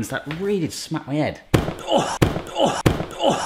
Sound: box thudding; box thuds

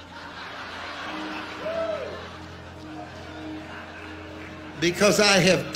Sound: congregation laughing

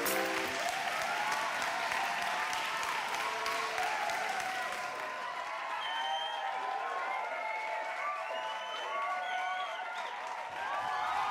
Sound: crowd cheering and clapping

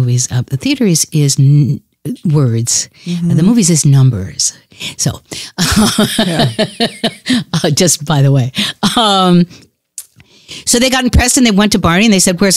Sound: laughs

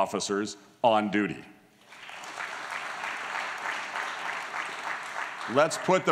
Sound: applause

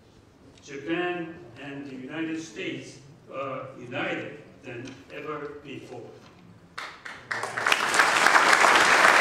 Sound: applause

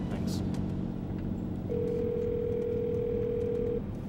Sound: phone dials

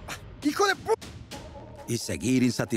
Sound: gruñe

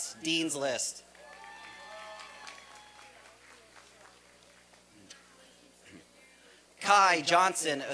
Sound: applause and cheering

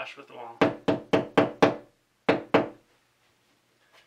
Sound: knocking

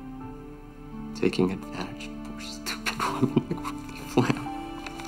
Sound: sobs

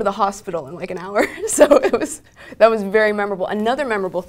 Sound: laugh

